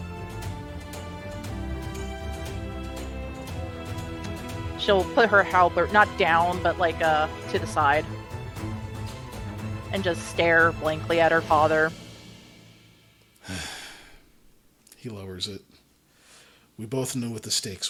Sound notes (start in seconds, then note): 10.7 sighs